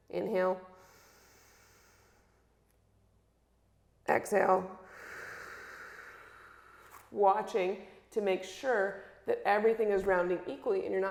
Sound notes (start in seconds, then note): 1.7 inhales; 4.8 exhales